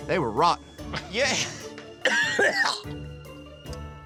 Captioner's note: dry heaving